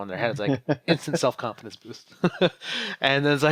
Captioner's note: co-host laughs